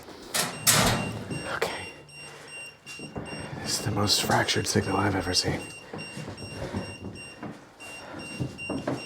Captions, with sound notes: (EMF meter beeping) Okay. This is the most fractured signal I've ever seen.